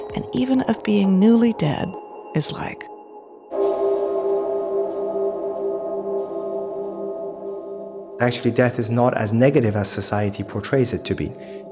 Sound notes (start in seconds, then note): 3.8 cathedral bell ring echoing